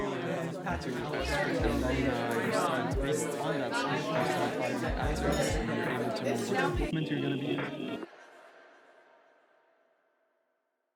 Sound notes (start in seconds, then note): 0.0 people talking; 8.0 silence